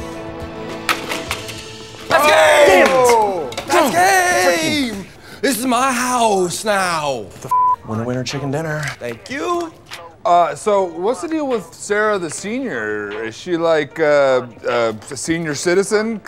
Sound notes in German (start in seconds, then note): 2.0 alle rufen aus; 7.5 Piep